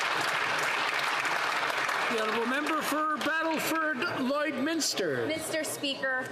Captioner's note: some Applause